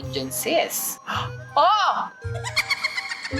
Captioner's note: gasps